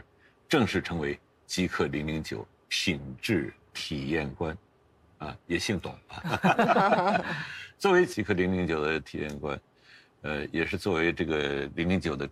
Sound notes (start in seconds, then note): 6.2 laughs